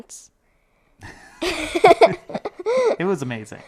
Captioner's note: all laughing